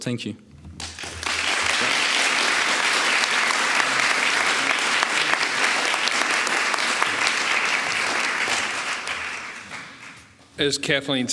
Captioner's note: applause